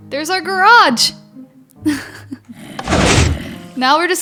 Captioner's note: laughs